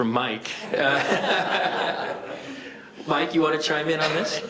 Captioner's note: all laughing